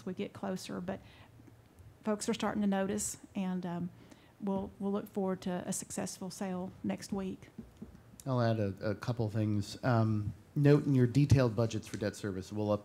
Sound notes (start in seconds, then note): none